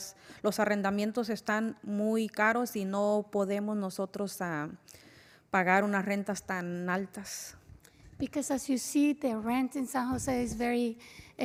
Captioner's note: spanish